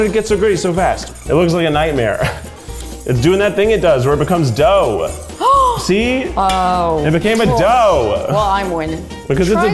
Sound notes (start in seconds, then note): 5.6 gasps